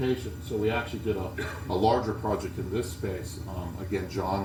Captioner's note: cough